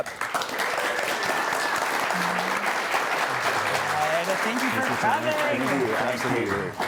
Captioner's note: audience applauding